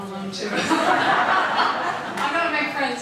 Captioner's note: audience laughing